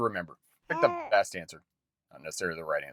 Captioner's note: baby cooing